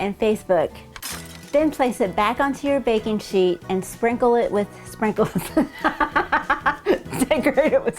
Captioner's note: laughing